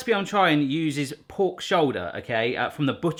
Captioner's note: none